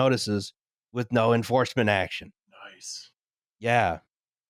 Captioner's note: loud whisper